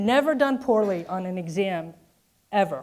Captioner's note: none